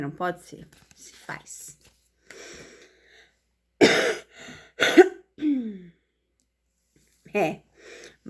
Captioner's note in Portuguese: limpando a garganta; tosse